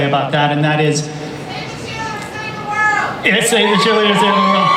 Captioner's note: voiceover